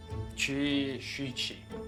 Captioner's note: talking in chinese